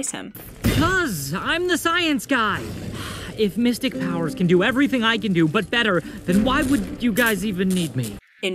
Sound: sigh

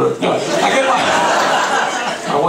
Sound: laughing

